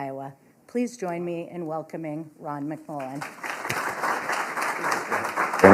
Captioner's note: applause